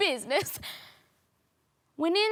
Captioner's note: sharp inhale